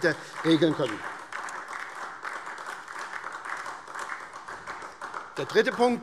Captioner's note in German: Beifall SPD